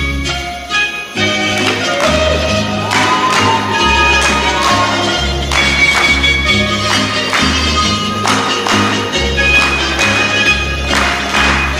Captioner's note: clapping rhythmically